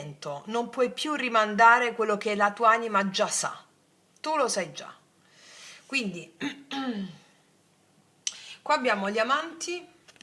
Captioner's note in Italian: schiarire la voce